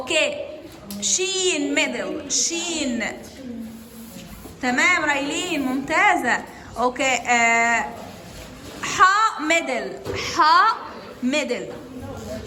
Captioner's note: speaking Arabic